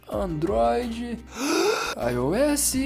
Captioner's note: breathes